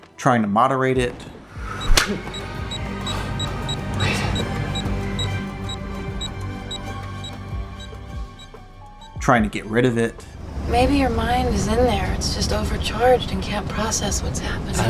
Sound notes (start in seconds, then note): 1.8 slap